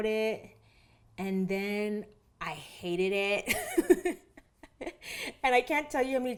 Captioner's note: laughs